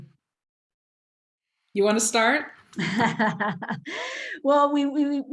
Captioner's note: laughter